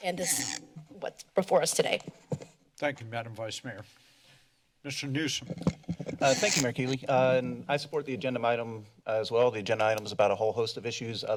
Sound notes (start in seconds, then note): 6.2 mic noise